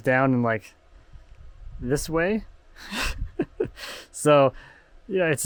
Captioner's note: laughing